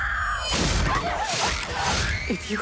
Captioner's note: scream